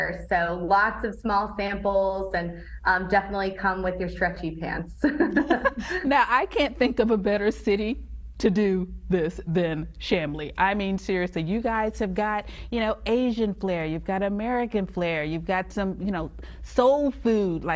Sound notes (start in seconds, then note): 5.1 laughs